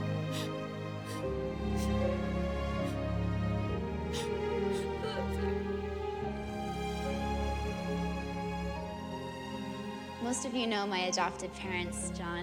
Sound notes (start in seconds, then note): 1.2 Eliza sobbing